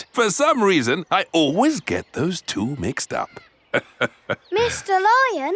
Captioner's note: laughs